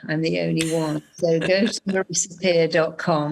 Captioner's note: laughing